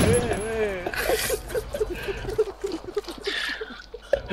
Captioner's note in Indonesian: nasty giggles